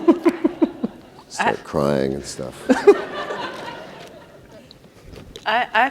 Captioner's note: audience laughter